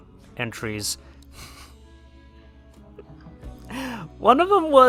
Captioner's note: laughs